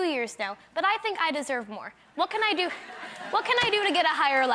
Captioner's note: crowd laughs